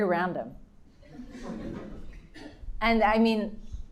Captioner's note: audience laughing